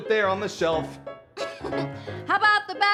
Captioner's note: giggling